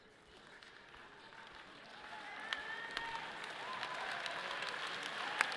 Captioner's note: audience applauds